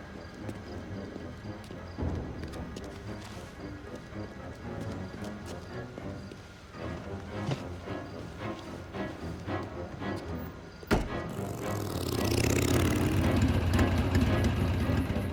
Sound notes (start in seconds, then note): 0.2 tense music continues; 10.8 boot thuds; 10.8 motorbike rumbles